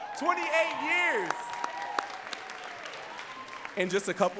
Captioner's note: audience cheering and clapping